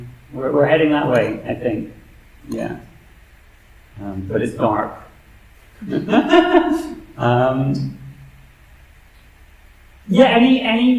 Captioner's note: laughter